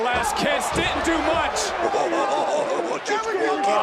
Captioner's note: laughs